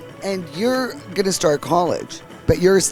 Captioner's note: laughs